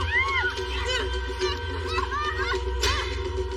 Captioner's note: screaming